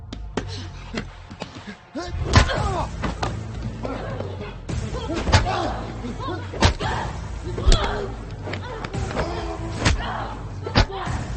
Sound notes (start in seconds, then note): 3.8 both grunting; 4.9 punches thudding